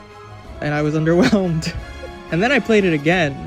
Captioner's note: laughs